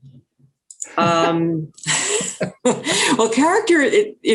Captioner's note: laughing